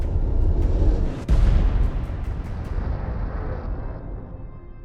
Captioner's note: soft intriguing music; explosive detonation